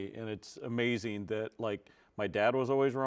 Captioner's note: none